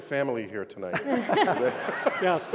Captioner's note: laughter